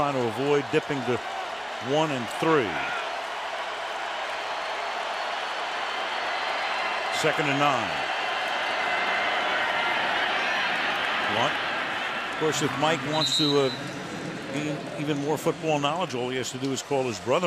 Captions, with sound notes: And right now, trying to avoid dipping to 1 and 3. [cheering] Second and 9. Blount-- of course, if Mike wants to gain even more football knowledge, all he has to do